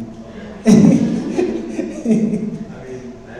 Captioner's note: laughs